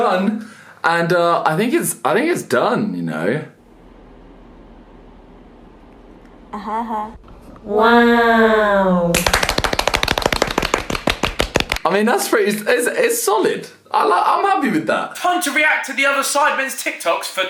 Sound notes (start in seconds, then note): 9.1 clapping faster